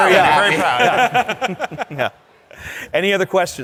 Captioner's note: laughter